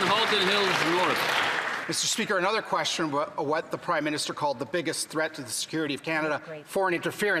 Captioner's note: some Applause